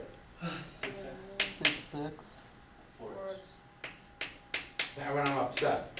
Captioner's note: students speaking softly